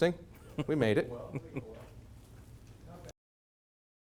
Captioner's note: chuckle